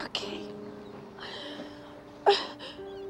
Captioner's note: sobbing